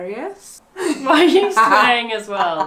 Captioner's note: laughs